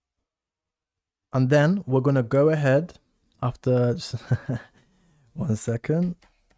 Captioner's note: chuckles